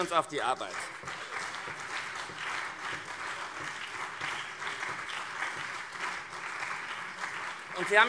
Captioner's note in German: Beifall CDU und SPD